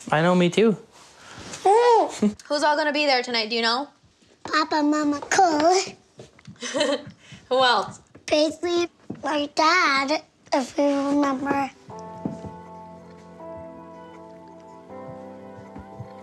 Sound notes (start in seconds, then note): 6.5 Chelsea giggling; 11.2 solemn music